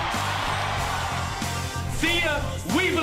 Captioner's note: crowd cheers